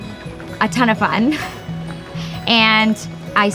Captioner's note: laughs